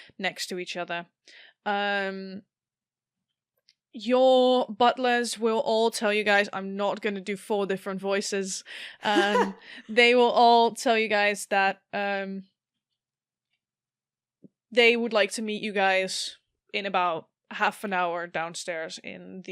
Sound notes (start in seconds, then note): 9.0 Alyssa laughs